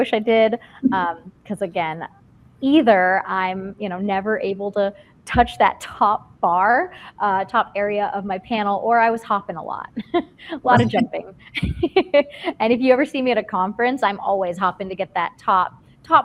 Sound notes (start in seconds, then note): 10.7 laugh; 11.5 laughs